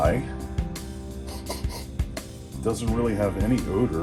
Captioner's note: sniffing noises